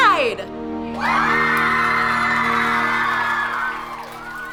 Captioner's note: campers applauding; campers cheering